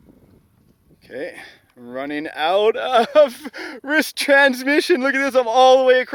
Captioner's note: laughs